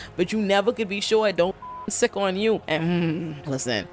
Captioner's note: beep